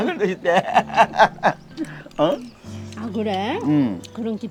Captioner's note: both laughing